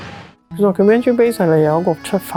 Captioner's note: Cantonese